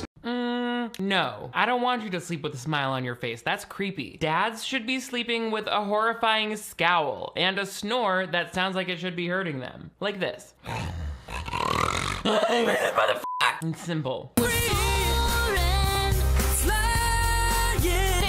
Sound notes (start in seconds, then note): 10.6 snores dramatically; 13.2 beep